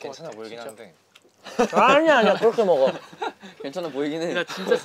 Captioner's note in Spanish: Jajaja